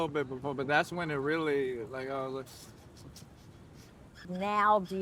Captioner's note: mimicking crying